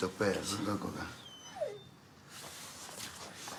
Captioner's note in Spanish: perros gimen